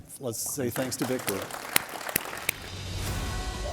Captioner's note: applause